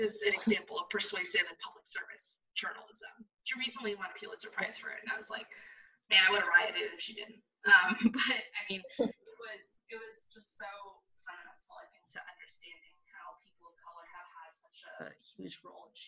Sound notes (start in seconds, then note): 5.6 laughs